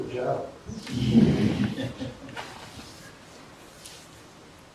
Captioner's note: laughter